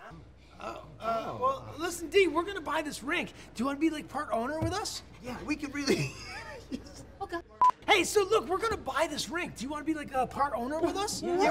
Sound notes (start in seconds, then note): 5.8 laughs; 11.2 mocking